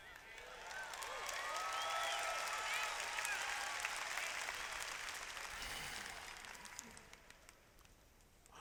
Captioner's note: cheers